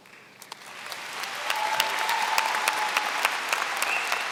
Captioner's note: applause